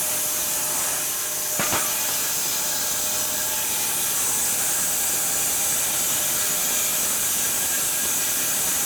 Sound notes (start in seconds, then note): 1.9 sawing machine whirring continues